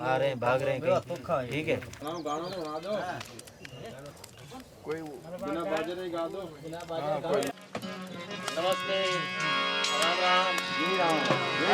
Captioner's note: indistinct Chatter